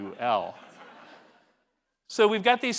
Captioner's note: laugh